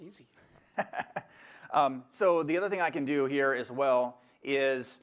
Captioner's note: laughter